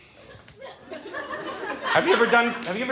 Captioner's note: audience laughs